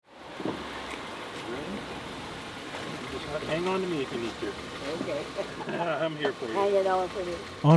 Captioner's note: laughs